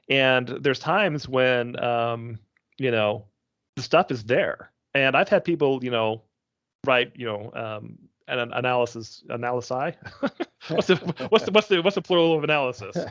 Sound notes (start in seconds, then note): 10.0 chuckling